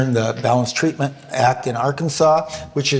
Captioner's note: none